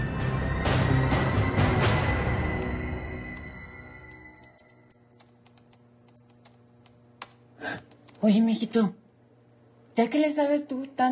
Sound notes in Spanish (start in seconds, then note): 2.4 Pitidos